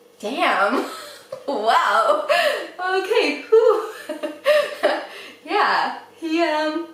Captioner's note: laughs